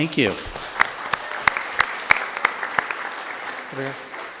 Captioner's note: applause